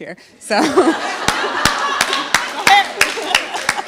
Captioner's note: LAUGHTER and APPLAUSE